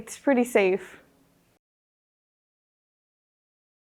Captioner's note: silence